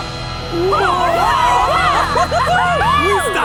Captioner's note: cheering